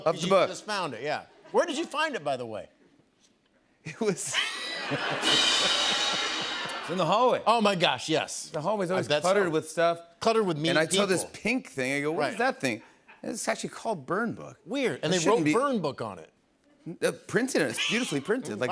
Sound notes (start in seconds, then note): 4.1 laughter; 5.0 cymbal crash